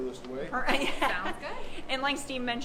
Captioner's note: laughing